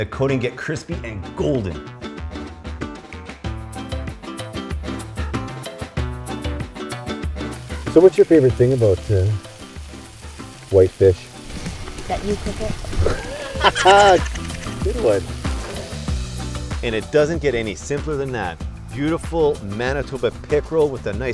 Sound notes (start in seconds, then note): 11.1 pan sizzling heard over the track; 12.8 both laugh